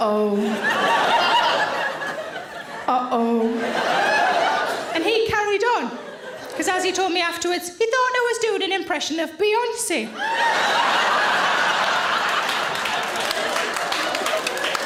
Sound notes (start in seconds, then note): 10.1 audience laughs